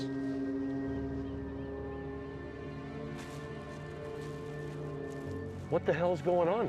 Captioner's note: boat horn blaring; mysterious music